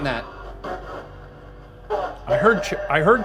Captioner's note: device buzzing